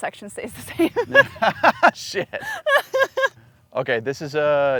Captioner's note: laughs